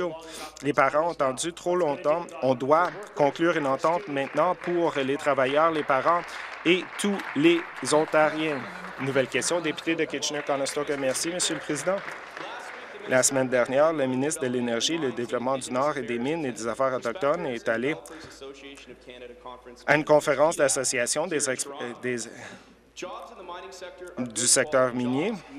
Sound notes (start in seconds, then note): 10.8 applause